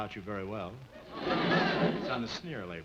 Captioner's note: audience laughing